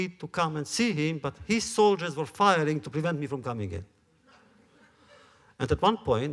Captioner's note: laughter